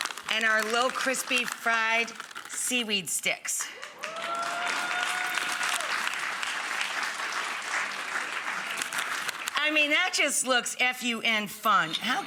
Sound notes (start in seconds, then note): 3.8 audience applauds